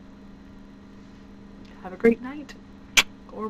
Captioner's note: kiss